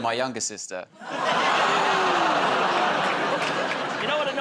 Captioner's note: audience groans